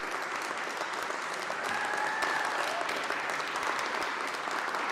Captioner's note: audience clapping